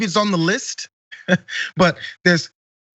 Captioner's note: laugh